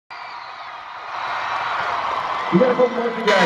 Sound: crowd cheering

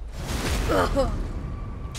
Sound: grunt

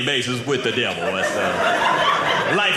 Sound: audience laughing

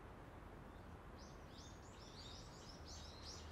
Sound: birds chirp

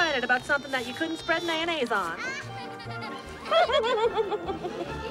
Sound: laughs

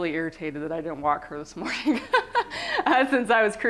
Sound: laughter

